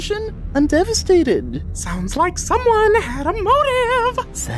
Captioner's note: sing-songy